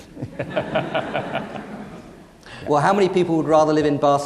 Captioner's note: audience laughing